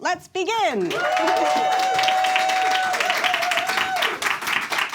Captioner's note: audience claps